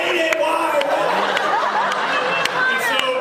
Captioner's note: laughs